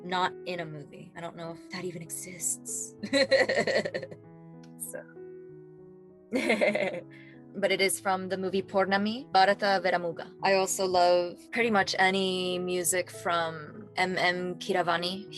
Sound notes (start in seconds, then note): 6.1 laughing